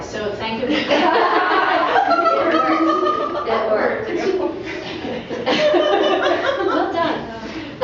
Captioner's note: laughter